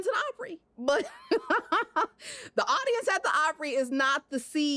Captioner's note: laughs